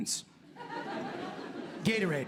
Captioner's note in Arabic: ضحك